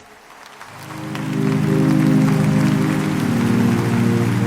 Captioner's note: audience clapping